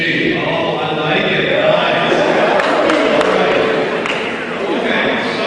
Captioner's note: cheering